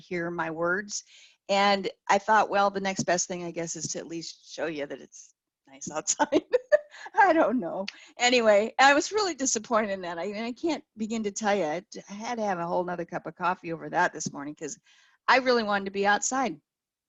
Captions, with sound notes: to hear my words. And I thought, well, the next best thing I guess is to at least show you that it's nice outside (laughs). I don't know. Anyway, I was really disappointed in that. I can't begin to tell you, I had to have a whole nother cup of coffee over that this morning, cause I really wanted to be outside.